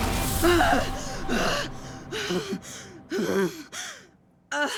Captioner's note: Dorothy gasping